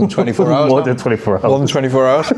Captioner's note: laughs